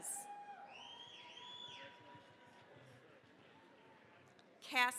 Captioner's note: cheering, applause